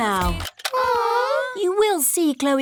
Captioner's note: music stops; all groan